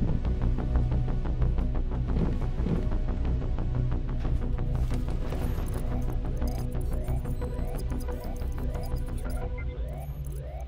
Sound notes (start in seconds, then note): 5.5 computer trilling; 5.6 alarm blaring